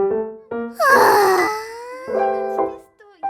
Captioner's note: sighing